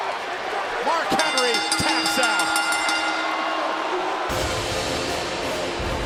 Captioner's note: bell ringing